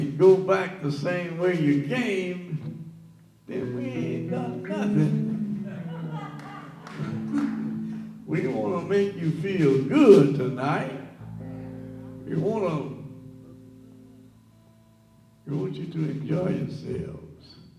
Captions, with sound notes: and go back the same way you came, then we ain't done nothing." (audience laughs) We wanna make you feel good tonight. We want you to enjoy yourselves.